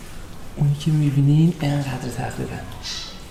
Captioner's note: bird